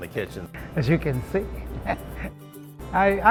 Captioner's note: laughs